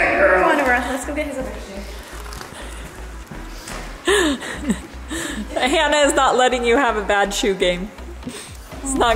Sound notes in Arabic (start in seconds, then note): 4.0 كريستال يضحك